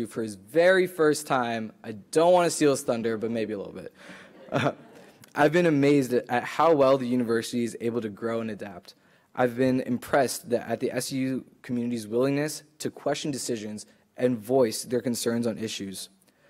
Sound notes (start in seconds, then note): 4.4 laughing